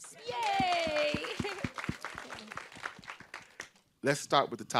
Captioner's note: group cheering